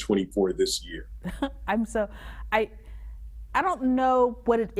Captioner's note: chuckles